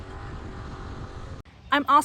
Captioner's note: engine Noise